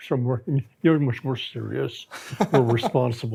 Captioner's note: laughs